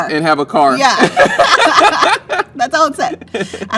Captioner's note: laughing